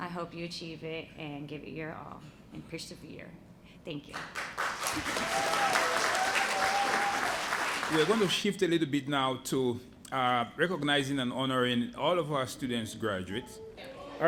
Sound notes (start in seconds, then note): 4.1 applause